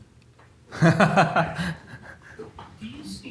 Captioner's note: laughs